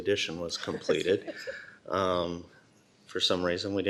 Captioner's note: laughter